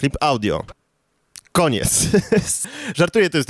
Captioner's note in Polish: śmiech